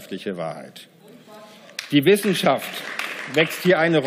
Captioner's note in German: Beifall